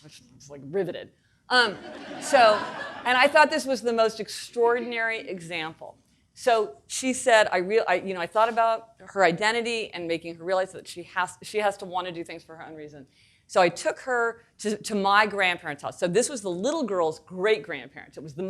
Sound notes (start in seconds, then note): 1.7 audience laughing